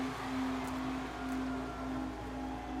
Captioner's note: crowd cheers